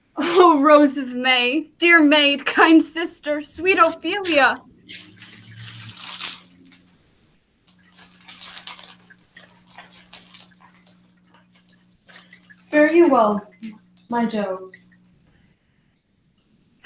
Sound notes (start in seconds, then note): 5.4 paper rustling